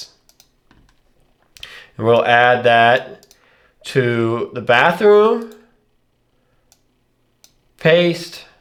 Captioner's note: blank Audio